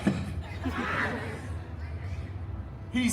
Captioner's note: guests laughing